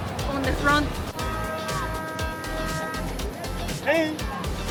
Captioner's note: boat honking